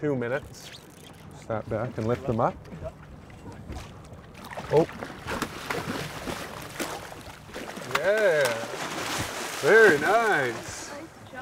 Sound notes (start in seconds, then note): 2.1 reel cranking; 4.9 fish splashing